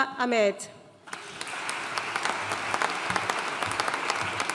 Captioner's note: audience applauding